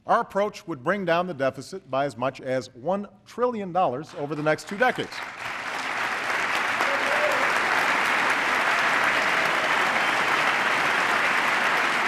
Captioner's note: applause